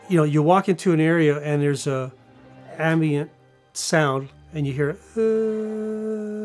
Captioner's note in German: Brummen